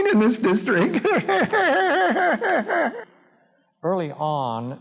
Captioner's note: laughs